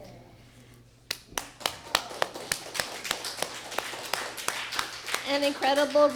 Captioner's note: applause